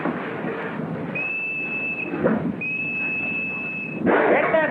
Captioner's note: whistle